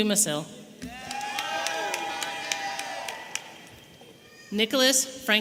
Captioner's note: audience applauding and cheering